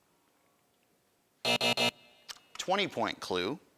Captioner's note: buzzing